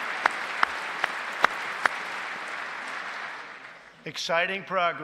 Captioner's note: applause